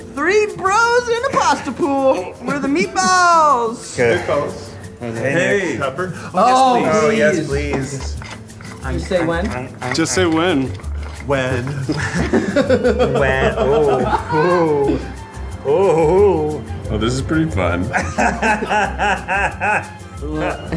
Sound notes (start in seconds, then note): 8.0 pepper grinding; 17.9 Ned laughs